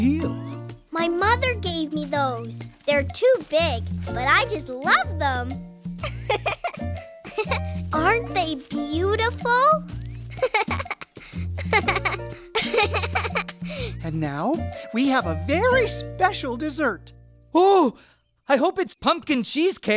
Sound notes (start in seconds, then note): 6.0 giggling; 11.5 giggling